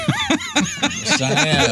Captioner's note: laughing